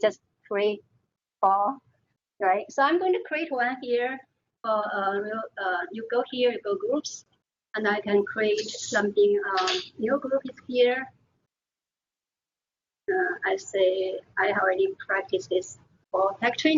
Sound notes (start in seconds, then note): none